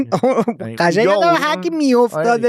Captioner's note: laughs